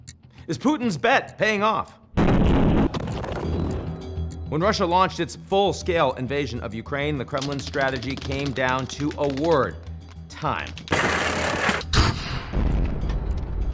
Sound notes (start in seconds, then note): 2.1 munitions explode; 10.9 munitions explode